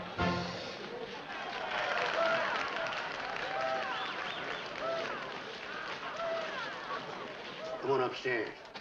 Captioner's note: cheers & applause